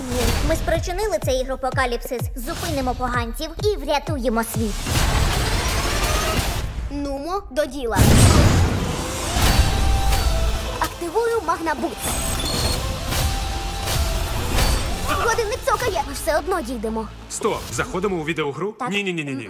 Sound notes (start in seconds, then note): 4.8 machine whirring